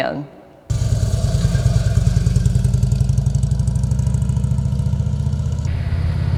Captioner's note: motorcycle engine running